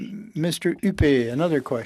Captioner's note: speaking in French